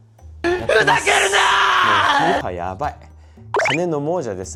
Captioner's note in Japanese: 叫び声